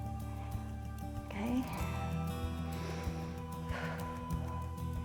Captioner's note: inhales and exhales